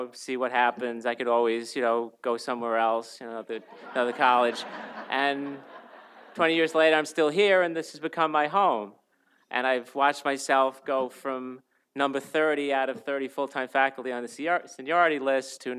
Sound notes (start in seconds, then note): 3.6 audience laughs